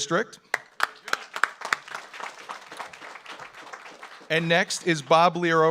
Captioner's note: audience applauds